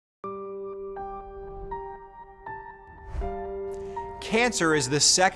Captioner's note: gentle music; air whooshing